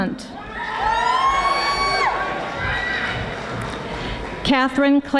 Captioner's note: audience applauding